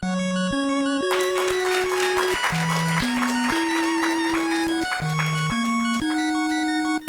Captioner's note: applause